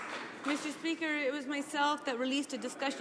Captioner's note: some Applause